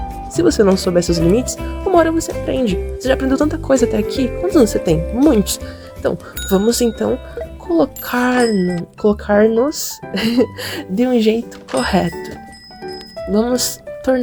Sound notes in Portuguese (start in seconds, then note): 10.1 risos